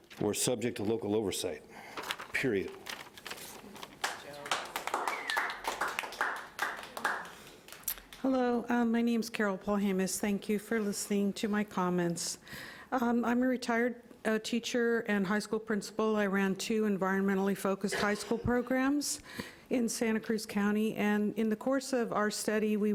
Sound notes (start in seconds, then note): 4.0 audience applauding lightly